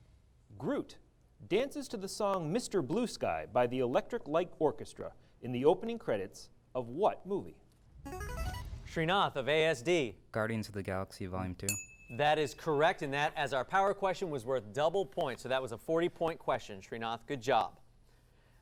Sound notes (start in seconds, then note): 8.0 device sound; 11.6 ding